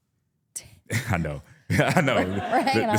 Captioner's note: laughs